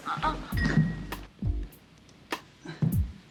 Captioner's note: Kate moans